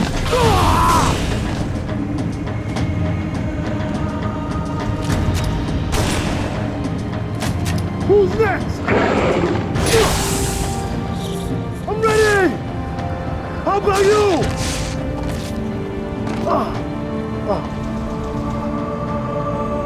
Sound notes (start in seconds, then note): 0.2 scream; 8.8 groan; 8.8 growl; 16.1 groan